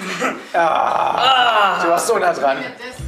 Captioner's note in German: Ärgerlicher Laut